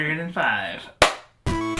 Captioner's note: clap; intro music plays